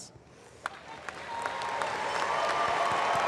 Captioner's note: applause